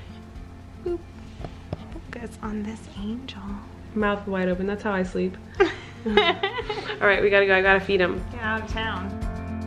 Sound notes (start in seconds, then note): 5.5 giggles